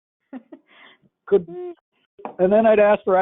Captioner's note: laugh